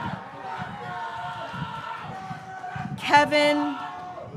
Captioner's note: graduates cheering